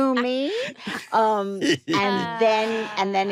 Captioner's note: all laugh